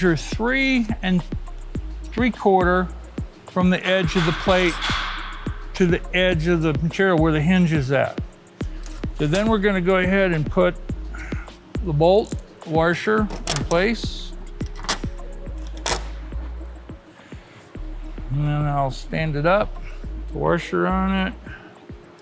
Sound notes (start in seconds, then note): 14.6 metal clanging